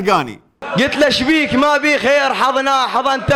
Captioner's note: poetically